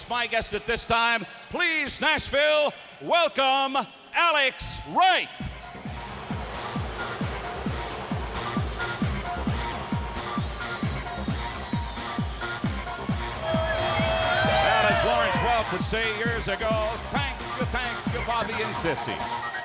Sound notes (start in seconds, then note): 5.7 upbeat music; 7.6 crowd clamoring